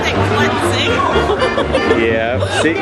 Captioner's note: nervous laughter